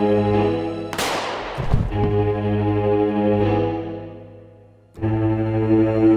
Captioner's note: gunshot booms; body thuds; tense menacing music continues